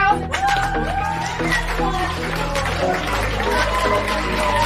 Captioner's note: cheering